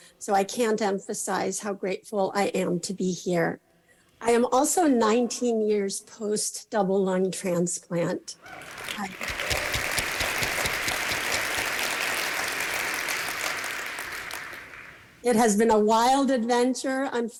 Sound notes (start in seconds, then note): 8.4 applause